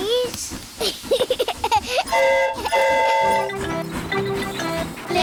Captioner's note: giggles; train horn toots